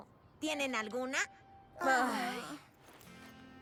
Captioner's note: sigh